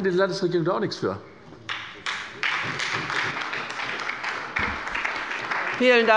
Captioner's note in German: Beifall bei der SPD